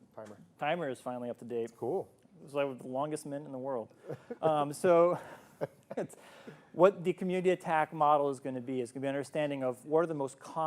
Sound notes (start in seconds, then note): 5.1 both chuckling